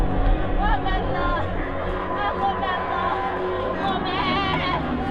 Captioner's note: wailing continues; chaotic sounds of marching band, wailing